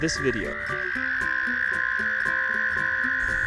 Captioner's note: toads singing